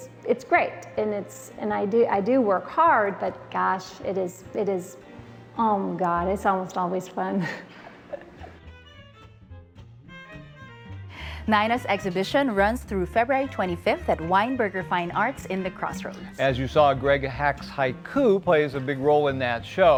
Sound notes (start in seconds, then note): 7.4 laughs; 8.2 upbeat jazzy music